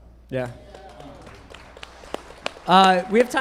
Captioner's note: group clapping